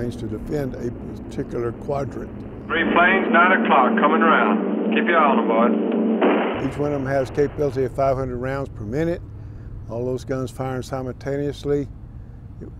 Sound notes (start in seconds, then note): 2.4 plane engine roaring; 6.2 guns firing